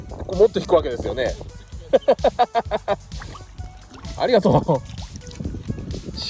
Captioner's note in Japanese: 大笑い